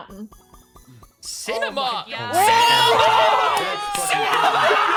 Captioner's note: yelling; all yelling